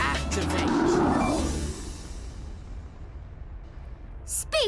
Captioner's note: engine humming